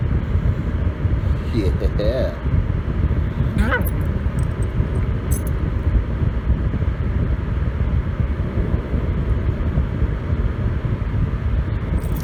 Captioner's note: Caprice growls